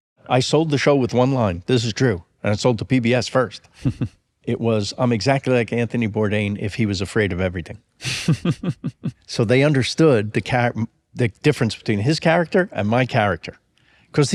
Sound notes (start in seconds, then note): 8.0 laughs softly